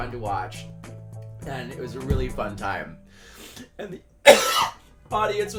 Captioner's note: coughing